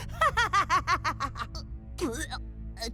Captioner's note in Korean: 웃는 클린 비; 구역질 소리